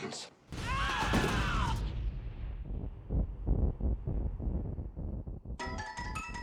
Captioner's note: ship sputters and conks out